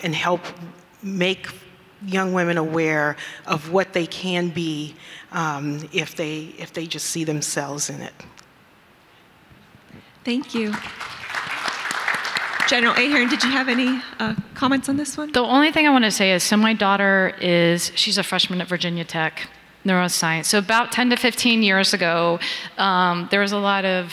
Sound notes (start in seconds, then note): 10.4 audience clapping